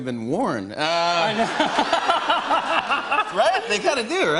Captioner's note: laughter